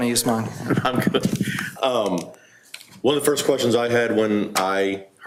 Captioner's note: laughing